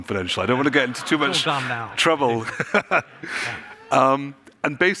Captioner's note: laughs